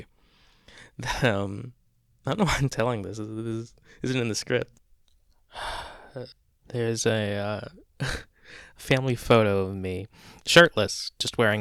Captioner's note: laughs then sighs